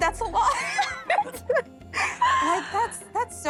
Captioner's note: laughs